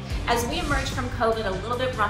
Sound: screen whooshing

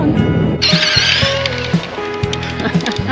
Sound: sound of electric motor; laughing

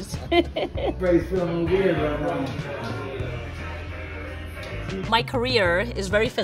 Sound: laughs; firefighters chattering

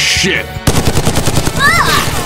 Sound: rapid fire

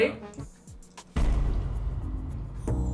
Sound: dramatic bang

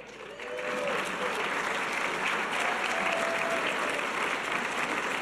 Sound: audience cheers and applause

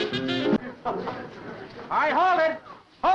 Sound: laughing

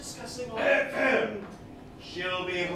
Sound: Mr. Hughes clears his throat off-stage

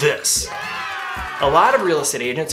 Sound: loud cheer

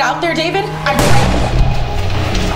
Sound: gunshot

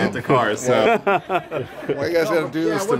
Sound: everyone laughs

